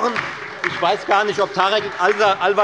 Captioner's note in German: Beifall bei der FDP und der LINKEN sowie bei Abgeordneten der SPD